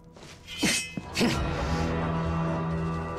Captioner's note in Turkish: Kılıç Sesi